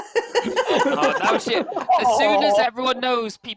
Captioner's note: laughter